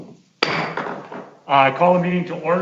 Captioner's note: gavel banging